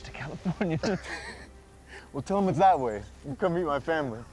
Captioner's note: laughs